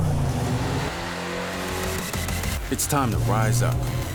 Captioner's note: engine revs